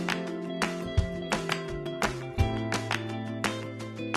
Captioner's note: upbeat music; hand claps